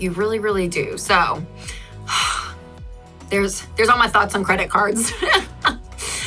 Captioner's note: laughs